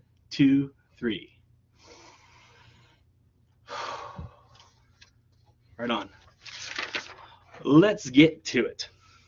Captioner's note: deep breathing